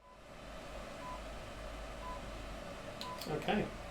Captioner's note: machine beeps